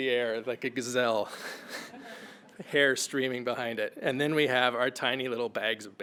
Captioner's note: laugh